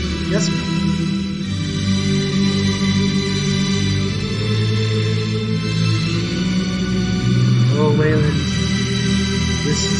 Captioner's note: cackles